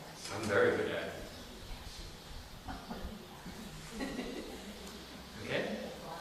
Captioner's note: laughter